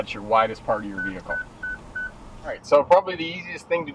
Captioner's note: beeping